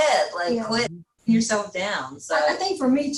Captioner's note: faintly speaking